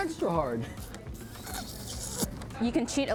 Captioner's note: sucking